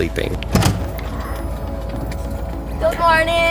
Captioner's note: car trunk pops